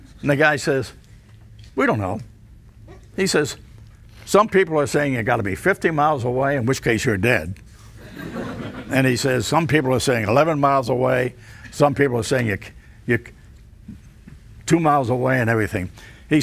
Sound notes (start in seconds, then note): 8.0 audience laughs